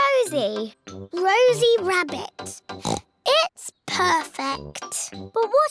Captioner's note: oinks